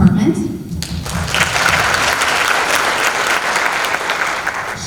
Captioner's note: applause